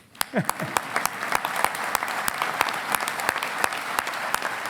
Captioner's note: audience applauding